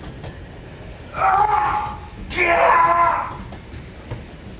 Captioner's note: man screams